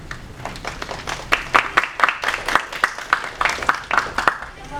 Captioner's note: applause